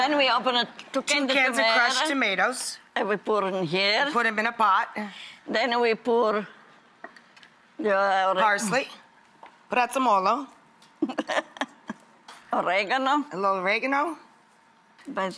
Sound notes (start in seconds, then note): 9.8 speaks Italian; 11.0 laughs